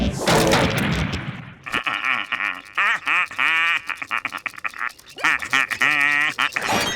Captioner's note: laughing